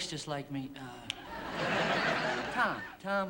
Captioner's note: laughter